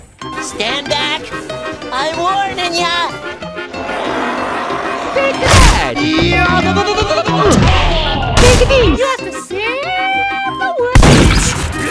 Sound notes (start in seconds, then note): 5.5 wham; 8.3 whack